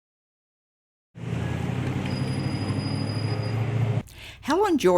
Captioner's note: car engine rumbling